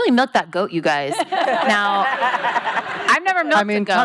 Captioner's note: laughing